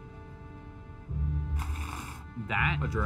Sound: sliding

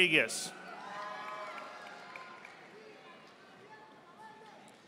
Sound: audience applauding

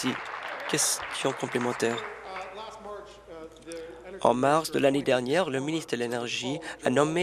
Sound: applause

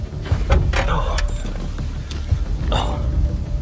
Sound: repeated grunts

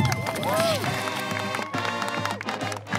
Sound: cheers and clapping

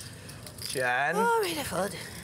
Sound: exclaiming relief

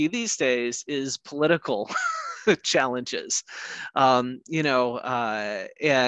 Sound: laughs

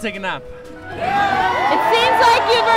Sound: cheers

